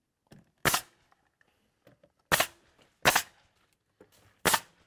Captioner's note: nail gun hissing